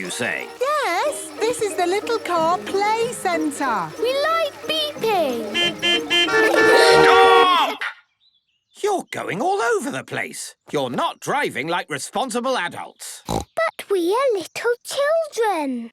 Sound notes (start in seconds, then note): 5.1 horns beeping; 13.2 snorting